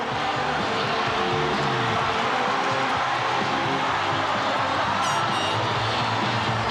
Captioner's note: audience cheering; upbeat rock music